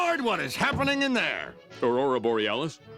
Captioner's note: shouting